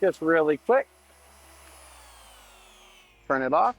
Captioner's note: machine whirring